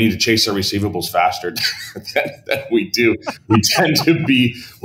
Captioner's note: laughs